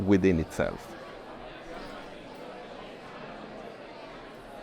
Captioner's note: crowd chatters